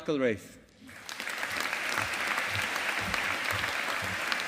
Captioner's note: audience applauding